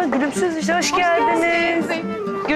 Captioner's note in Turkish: Hep bir ağızdan